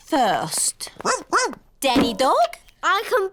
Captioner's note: barks